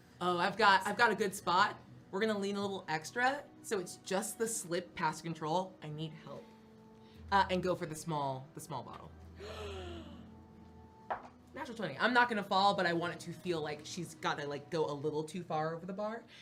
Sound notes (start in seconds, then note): 9.4 gasps